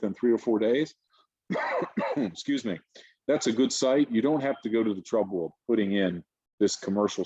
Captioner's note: cough